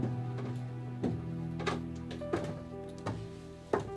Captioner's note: somber music continues; footsteps thudding